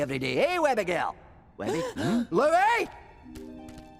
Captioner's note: all gasp